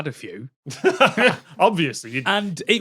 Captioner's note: chuckle